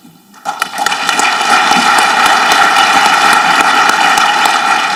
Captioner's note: audience clapping